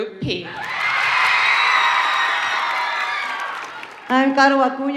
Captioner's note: audience cheering